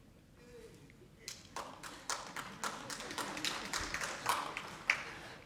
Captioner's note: audience clapping